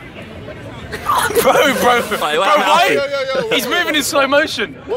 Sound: shouting and laughing

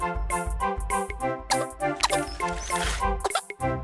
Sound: coughs

